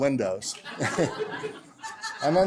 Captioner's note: laughter